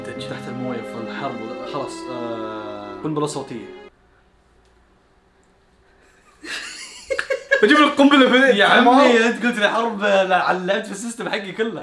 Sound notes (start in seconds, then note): 6.1 laughter